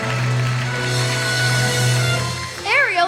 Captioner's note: cheering